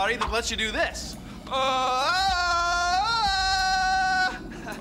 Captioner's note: imitates tarzan yell; chuckles